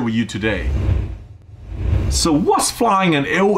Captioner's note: air whooshing